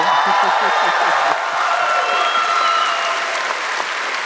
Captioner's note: cheers